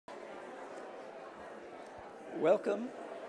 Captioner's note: background chattering